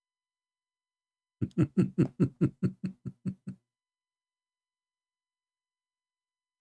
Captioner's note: Ketawa